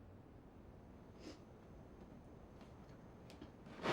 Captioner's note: none